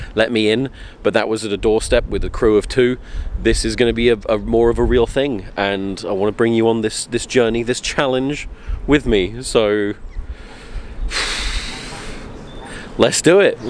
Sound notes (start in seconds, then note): 10.2 overwhelmed exhale